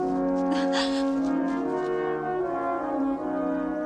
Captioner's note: woman gasps